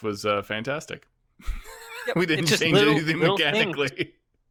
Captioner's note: laughs